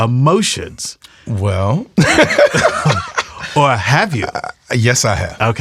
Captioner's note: laughs